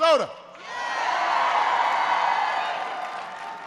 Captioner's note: applause